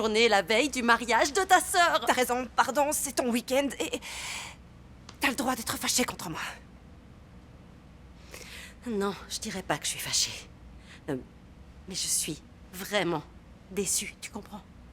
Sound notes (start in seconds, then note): none